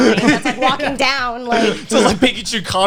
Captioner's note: guys laughing